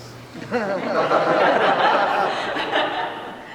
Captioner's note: laughter